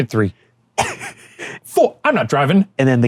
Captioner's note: laughing